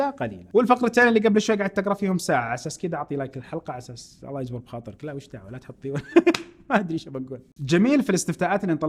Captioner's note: laughs